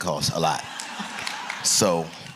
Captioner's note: laughter and applause